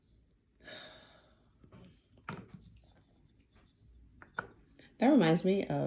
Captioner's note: sigh